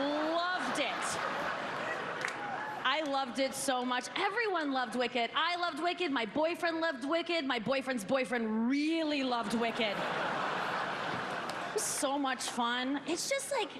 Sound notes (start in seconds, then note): 0.0 applause; 6.6 laughter